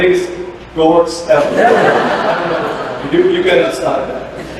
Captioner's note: laughter